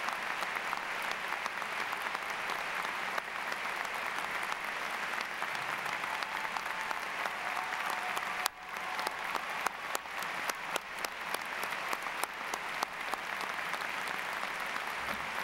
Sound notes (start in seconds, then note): 1.4 applause